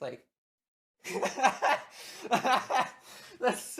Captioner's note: laughter